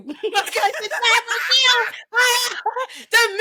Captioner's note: laughing